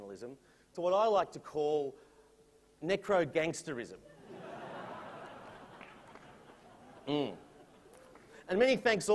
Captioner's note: laughter